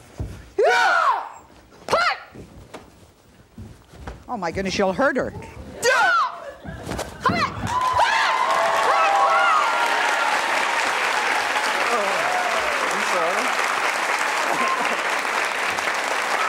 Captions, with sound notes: (yelling) Oh, my goodness, you'll hurt her. (yelling) (audience applauding) - Oh, I'm sorry.